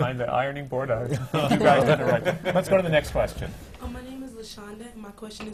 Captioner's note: laughter from the panel